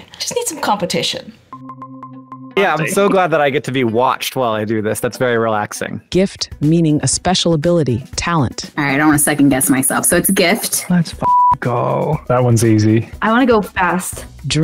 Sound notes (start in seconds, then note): 1.6 videos beep; 11.2 beep